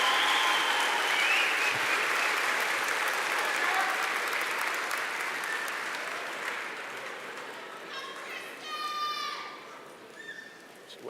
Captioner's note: applause